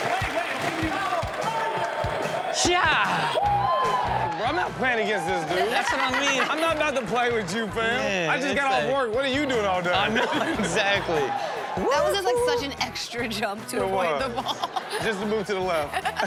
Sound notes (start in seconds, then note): 0.0 audience cheering and applauding; 3.2 players cheering; 5.6 Chanel laughs